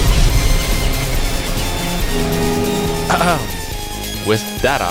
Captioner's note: coughs